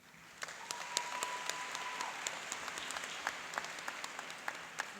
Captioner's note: cheering and applauding